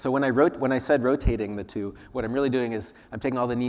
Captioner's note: none